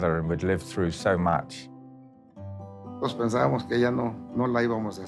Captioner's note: in Spanish